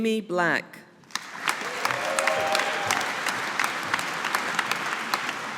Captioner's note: audience applauding